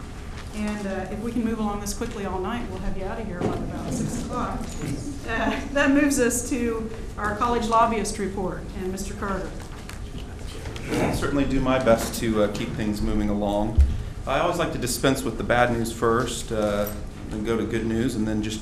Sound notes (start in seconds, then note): 5.3 laughter